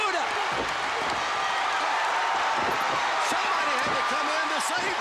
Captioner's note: crowd cheering